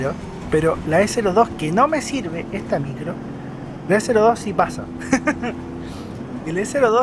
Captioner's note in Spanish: risas